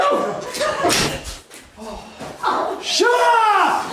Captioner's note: gun clicking